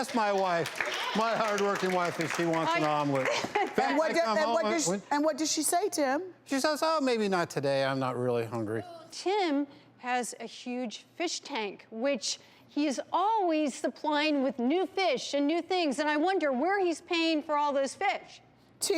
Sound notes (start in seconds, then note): 0.0 audience yelling; 3.2 laughs